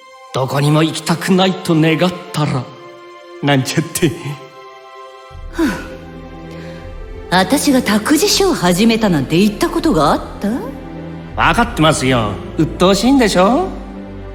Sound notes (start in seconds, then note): 5.4 sigh